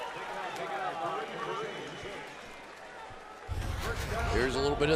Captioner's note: pa announcement